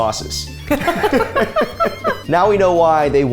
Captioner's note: laugh